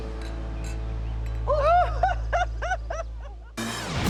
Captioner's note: laughter